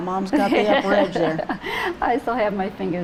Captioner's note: chuckles